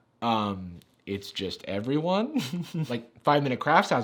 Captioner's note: laughing